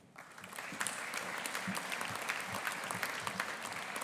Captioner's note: audience applauding